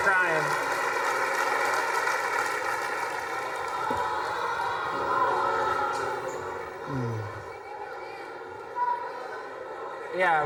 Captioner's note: students clapping and cheering